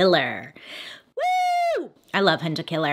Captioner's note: Bailey screams